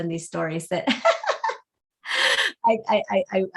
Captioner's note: laughs